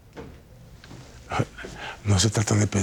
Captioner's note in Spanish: Ríe